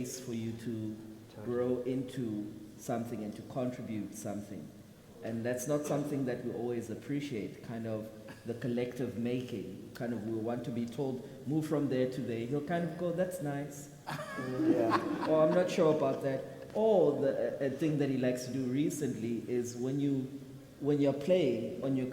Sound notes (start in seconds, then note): 14.0 people laugh